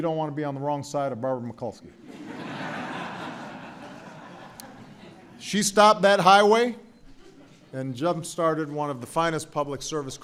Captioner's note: laughter